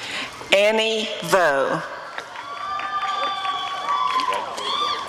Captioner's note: applause and cheering